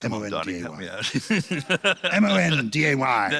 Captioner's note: laughter